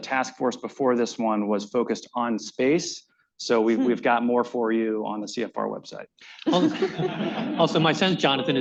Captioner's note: laughter